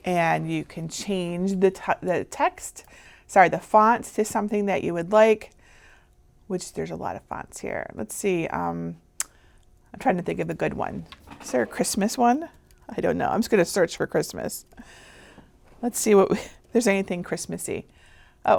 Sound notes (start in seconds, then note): none